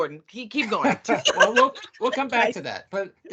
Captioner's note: laughing